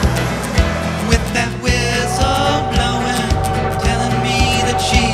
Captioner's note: whistle tooting